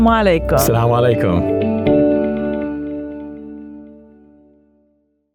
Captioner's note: speaks foreign language